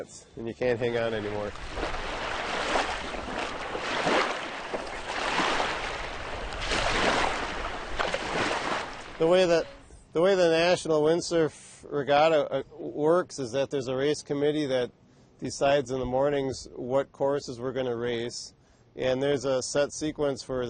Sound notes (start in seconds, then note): 7.0 water splashing